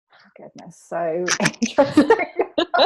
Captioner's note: laughs